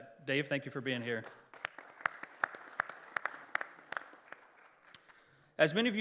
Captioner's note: applause